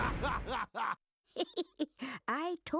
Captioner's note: giggling